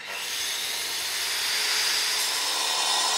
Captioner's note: machine whirring